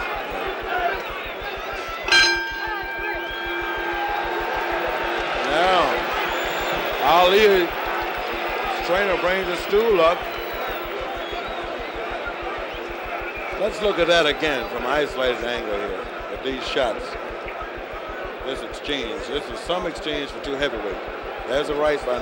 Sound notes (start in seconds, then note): 4.1 bell sounds